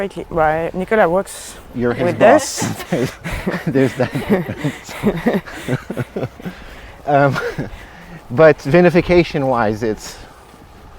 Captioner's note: everyone laughs